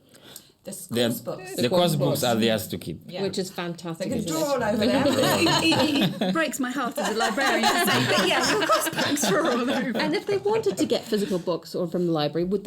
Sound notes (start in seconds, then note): 5.5 laughter